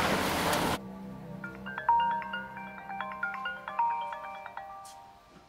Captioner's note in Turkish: Telefon çalıyor